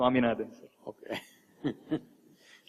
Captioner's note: laughs